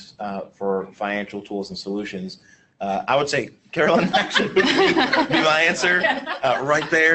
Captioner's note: laughter